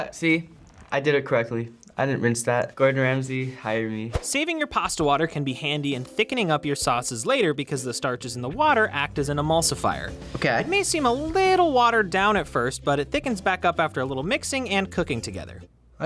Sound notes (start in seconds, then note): 3.8 voice-over; 10.6 voice-over